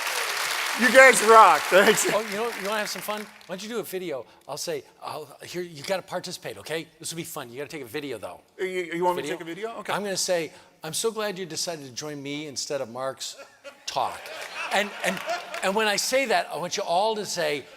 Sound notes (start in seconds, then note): 0.0 cheering